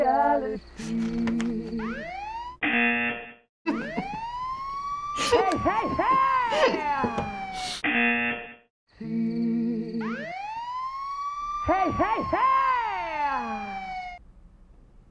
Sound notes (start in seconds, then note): 2.0 siren blares; 2.6 buzzer rings; 3.6 siren blares; 5.2 laughs; 7.9 buzzer rings; 9.0 siren blares